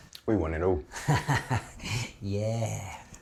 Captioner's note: laughing